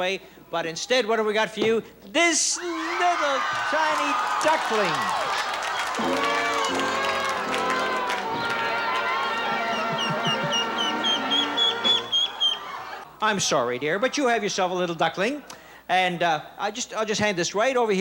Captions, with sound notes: but instead, what have we got for you? This little, tiny duckling! -(disappointed brass music) -(chirping) -I'm sorry, dear, but you have yourself a little duckling, and I'll just hand this right over here